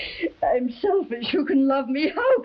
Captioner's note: crying